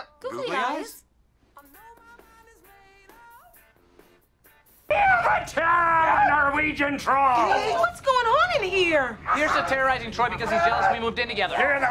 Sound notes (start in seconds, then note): 4.9 TROY screaming; 10.5 TROY is still screaming